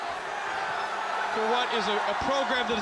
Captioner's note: crowd cheering